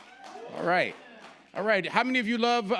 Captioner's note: audience cheering